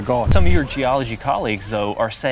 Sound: indistinct chatter

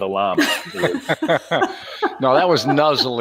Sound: laughing

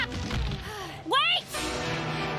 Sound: sigh of relief

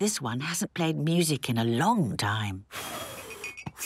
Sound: blows

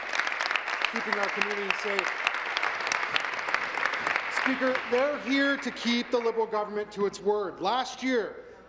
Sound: applause

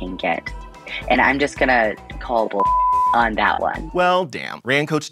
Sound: beep

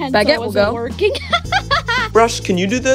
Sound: laughing

